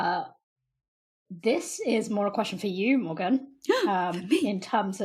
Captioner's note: gasps